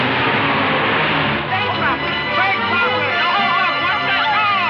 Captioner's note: people yelling; alarm ringing